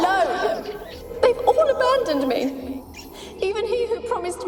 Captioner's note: tearfully